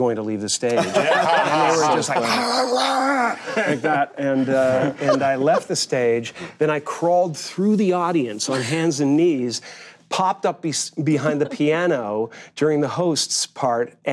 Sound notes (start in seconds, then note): 0.7 group laughing; 3.3 growls